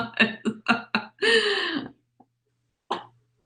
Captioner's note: laughs